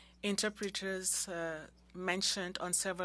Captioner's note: speaking French